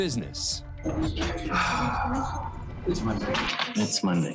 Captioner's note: sighs